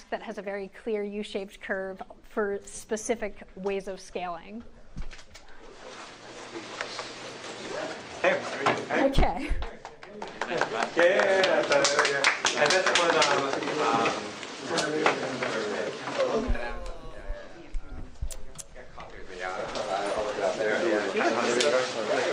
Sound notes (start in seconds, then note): 9.8 applause